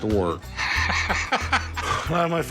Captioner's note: laughing